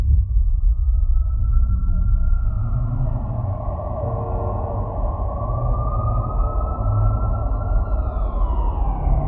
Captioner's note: distant sirens